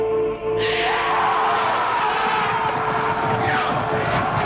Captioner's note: raiders shouting